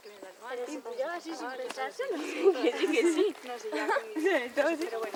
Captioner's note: girls talking and laughing at the same time